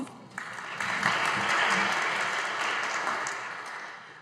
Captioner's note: audience applauding